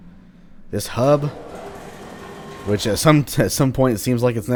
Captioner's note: chuckles